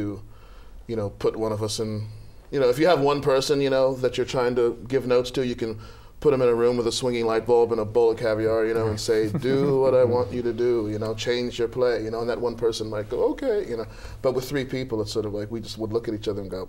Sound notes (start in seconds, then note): 9.2 laughter